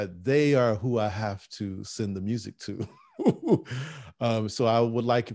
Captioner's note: laughing